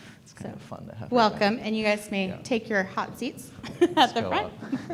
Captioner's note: laughs